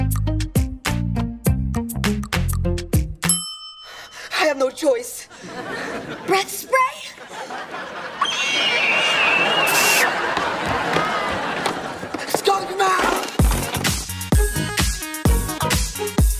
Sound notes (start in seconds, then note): 3.2 bell ringing; 8.2 screaming